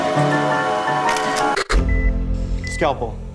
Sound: train whistle blows nearby; phone takes a picture

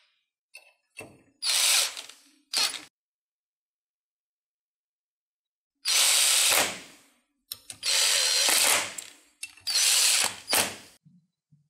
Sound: impact gun noise

